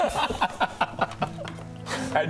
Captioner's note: unsympathetic laughter